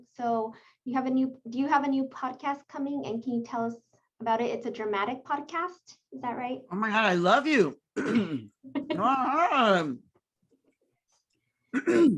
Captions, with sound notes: So do you have a new, do you have a new podcast coming? And can you tell us about it? It's a dramatic podcast, is that right? - Oh my God, love you. (clears throat)